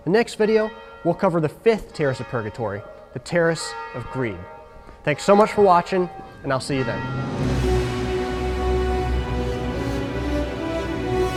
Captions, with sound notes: The next video, we'll cover the fifth terrace of purgatory, the terrace of greed. (church bells ringing) Thanks so much for watching, and I'll see you then. (rousing classical music)